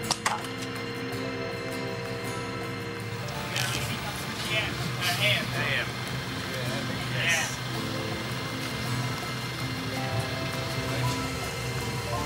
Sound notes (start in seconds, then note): 3.0 indistinct conversation; 8.6 peaceful music